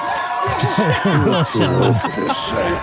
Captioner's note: cheering